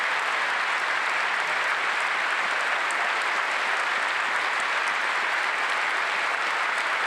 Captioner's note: applause